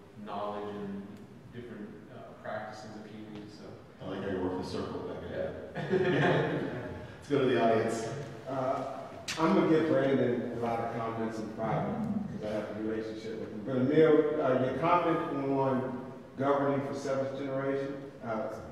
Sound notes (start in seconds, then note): 5.7 laughs